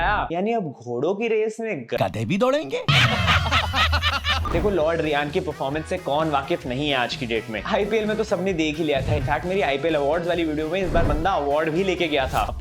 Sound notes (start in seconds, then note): 2.9 laughing